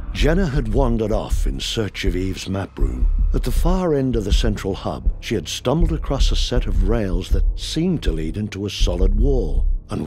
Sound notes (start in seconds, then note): none